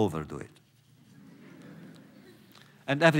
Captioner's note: laughter